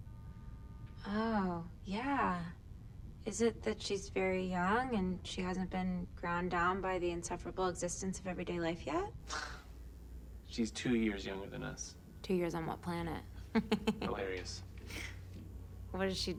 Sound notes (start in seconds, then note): 8.4 scoffs; 13.5 laughs